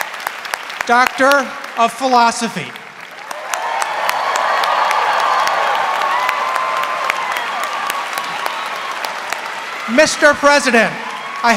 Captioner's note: applause